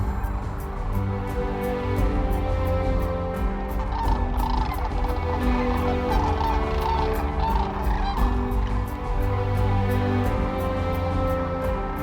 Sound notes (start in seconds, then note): 3.8 cranes calling